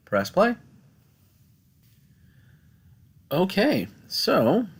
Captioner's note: no Speech Detected